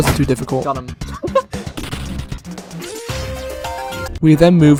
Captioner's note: laughing